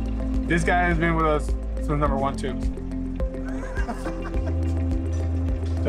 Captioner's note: laughs